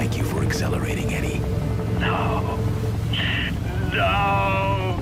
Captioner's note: helicopter whirring